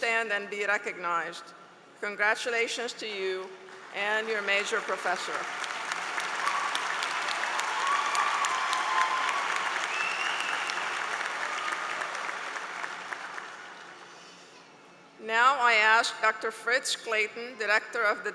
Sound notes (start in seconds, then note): 9.2 applause